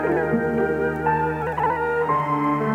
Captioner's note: none